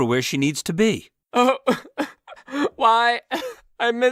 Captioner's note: lightbulb sobs; through choked sobs